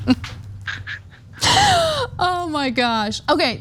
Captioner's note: laugh